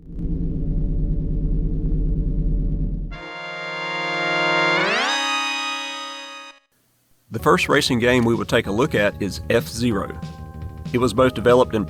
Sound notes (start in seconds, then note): 0.0 humming sound; 2.4 zoom in sound